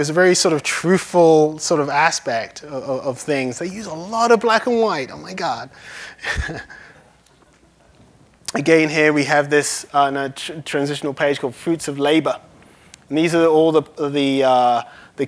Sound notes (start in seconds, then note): 6.2 laughs